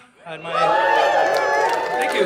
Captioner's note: audience laughing